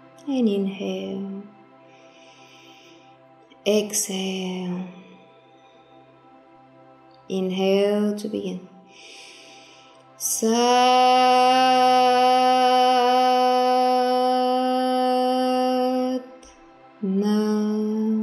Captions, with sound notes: And inhale (breathes deeply), exhale. Inhale to begin. (chanting in foreign language)